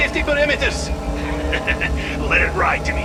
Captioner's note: laughs